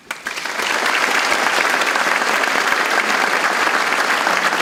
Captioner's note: audience applauds